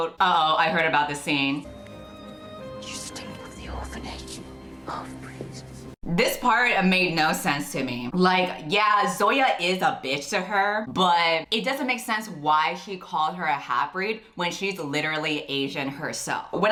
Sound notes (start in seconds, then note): 2.9 whispering